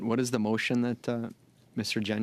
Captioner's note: speaking French